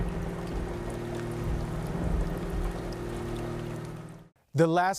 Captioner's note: thunder rolling; rain falling